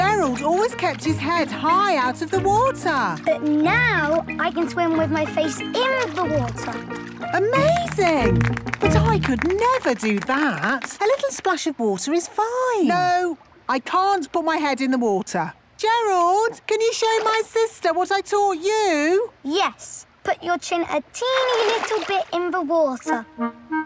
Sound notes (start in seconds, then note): 7.5 clapping